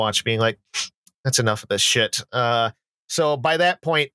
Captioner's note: sniffs